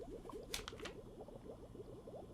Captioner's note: flips page